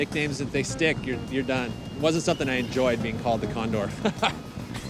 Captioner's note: laughs